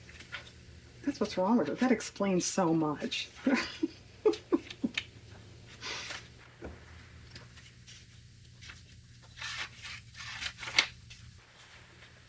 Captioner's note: laughs